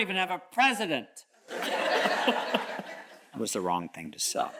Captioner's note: all chuckles